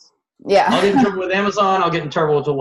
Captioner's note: laughs